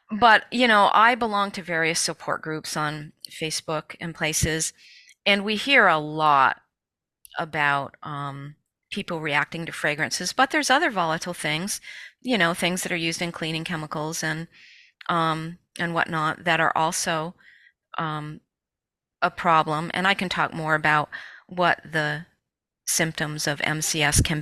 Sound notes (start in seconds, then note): none